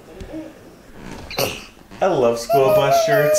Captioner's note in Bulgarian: грухтене